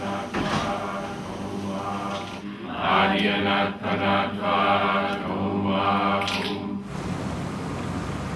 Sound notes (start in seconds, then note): 2.3 chanting; 5.3 snapping